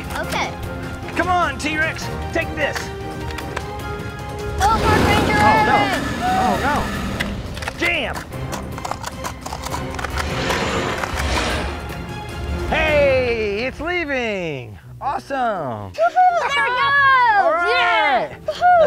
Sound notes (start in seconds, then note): 4.7 blaster firing; 8.9 blaster firing